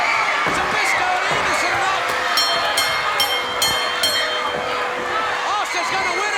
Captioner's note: bell rings